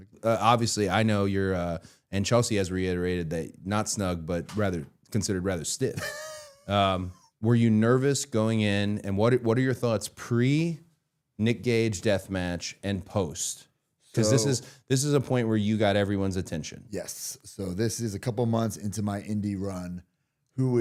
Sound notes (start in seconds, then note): 5.9 Matt laughing